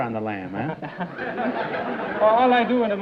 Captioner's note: laughter